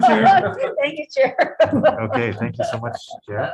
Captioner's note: laughs